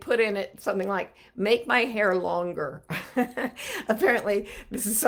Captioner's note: chuckling